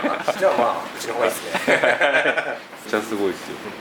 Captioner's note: laughs